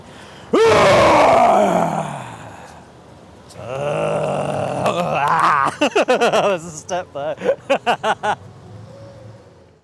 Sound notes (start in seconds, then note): 0.6 growling; 4.8 giggling